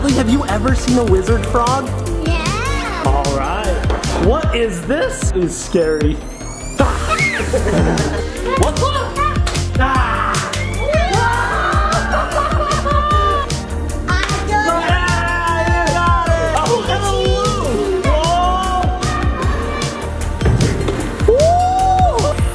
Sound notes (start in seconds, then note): 7.0 screams; 11.6 laughs